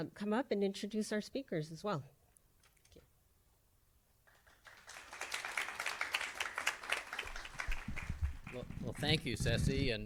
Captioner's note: applause